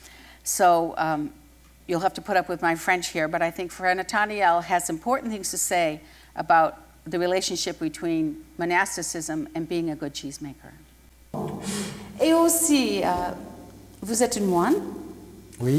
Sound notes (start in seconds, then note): 12.2 speaking french